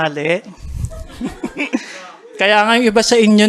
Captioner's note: soft laughter